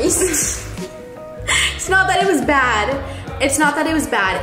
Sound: laughs

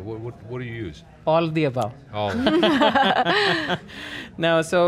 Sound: laughter

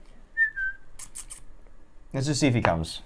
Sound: whistles

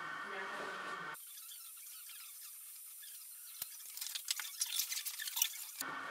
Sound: tape fast forward scratching

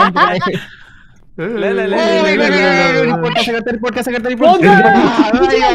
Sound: everyone making noises

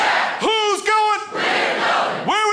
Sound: crowd

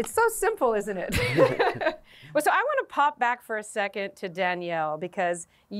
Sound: laughter

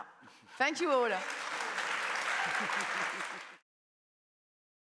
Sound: audience applauding

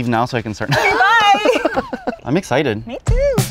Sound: laughing

